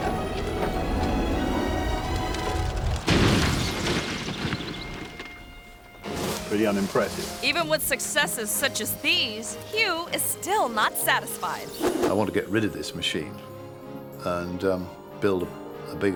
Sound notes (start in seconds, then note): 2.3 car thuds